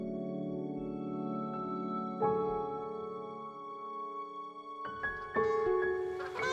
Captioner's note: sound of Canada Geese